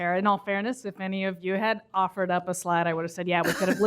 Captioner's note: laughter